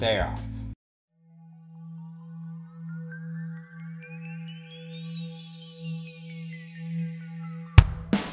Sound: eerie, high pitched sci-fi sound effects

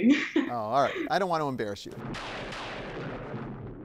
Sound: thunder crashing

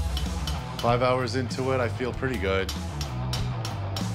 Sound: none

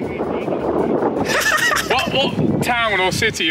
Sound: TOBI laughing

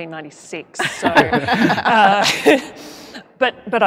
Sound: laughter

